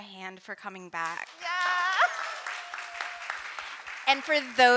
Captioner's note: audience applauding